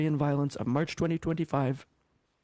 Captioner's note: speaking French